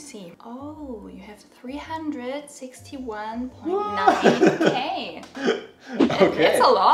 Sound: laughs

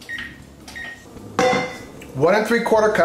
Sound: oven beeps

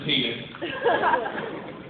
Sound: laughter

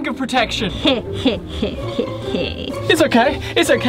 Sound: laughs

